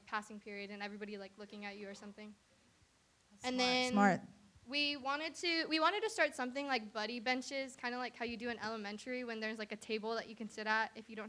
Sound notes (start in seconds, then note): none